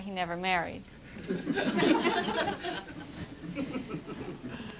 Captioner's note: laughter